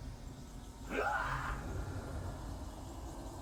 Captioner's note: the Raptor screams